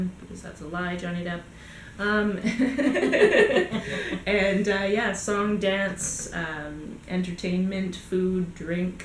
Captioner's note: both laugh